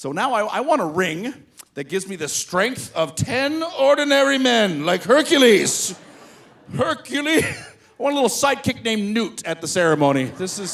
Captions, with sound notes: So now I want a ring that gives me the strength of 10 ordinary men like Hercules, Hercules. (laughs) I want a little sidekick named Newt at the ceremony.